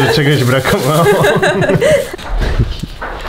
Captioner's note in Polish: śmiech